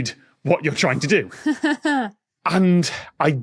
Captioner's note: chuckles